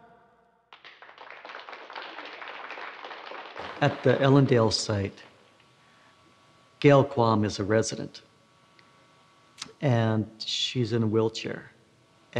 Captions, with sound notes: (applause) At the Ellendale site, Gayle Qualm is a resident. And she's in a wheelchair.